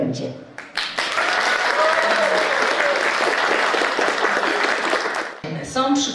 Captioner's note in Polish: oklaski